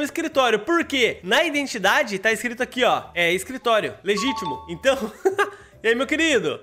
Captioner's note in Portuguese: risos